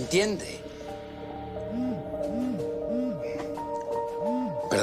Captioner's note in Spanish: Vibra el celular